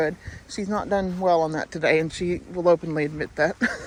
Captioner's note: laughs